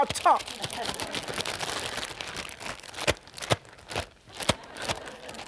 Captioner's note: audience laughing